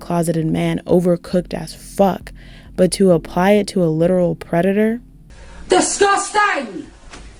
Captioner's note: heavy Scottish accent